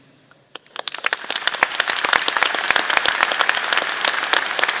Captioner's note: audience applause